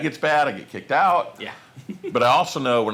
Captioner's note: chuckles